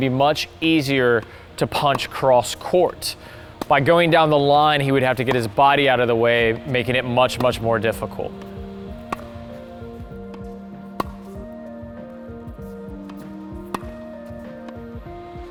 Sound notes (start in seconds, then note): 9.4 relaxing music; 10.7 tennis ball smacking